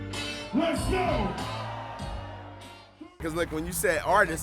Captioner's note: voiceover